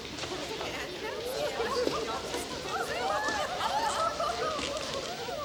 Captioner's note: townsfolk murmur and giggle